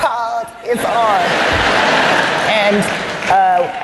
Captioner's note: laughter